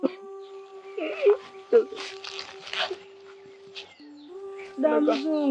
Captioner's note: sobbing